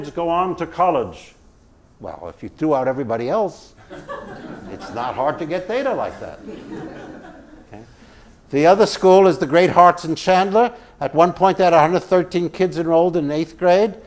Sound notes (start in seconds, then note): 6.0 laugh